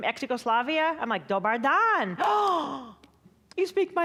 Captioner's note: gasping